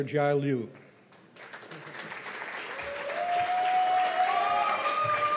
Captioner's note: cheers and applause